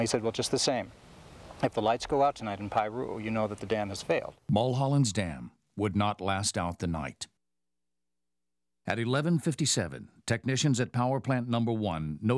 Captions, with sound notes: And he said, well just the same. If the lights give out tonight in Piru you'll know that the dam has failed. - [Voiceover] Mulholland's dam would not last out the night. At 11:57, technicians at power plant number one